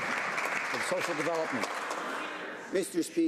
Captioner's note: some Applause